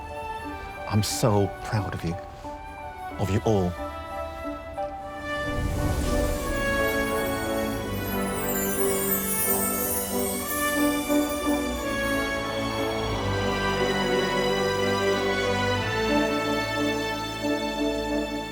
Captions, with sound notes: I'm so proud of you, of you all. (enchanted music) (meteor whirring) (sentimental music)